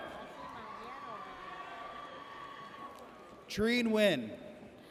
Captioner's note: audience cheers